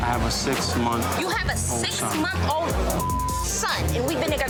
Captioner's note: beep